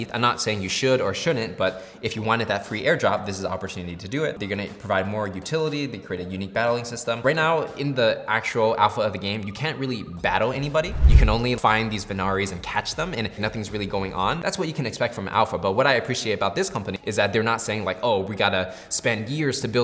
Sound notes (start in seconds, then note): 10.6 musical swoosh